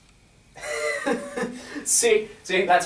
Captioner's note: Sampson laughs